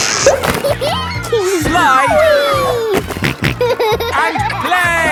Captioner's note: giggles; snorting